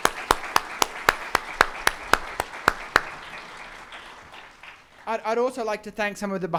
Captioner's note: audience clapping